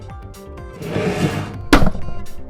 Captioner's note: chair scrape; table slam